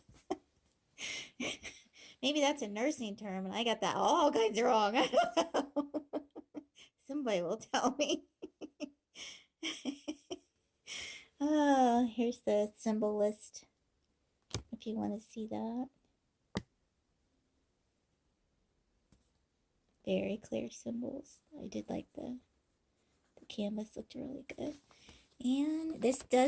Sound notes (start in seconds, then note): 0.1 laughing